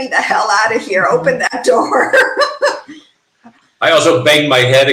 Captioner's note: laughing